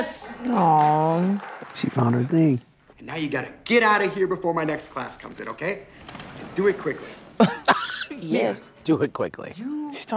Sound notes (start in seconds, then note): 7.5 scoffs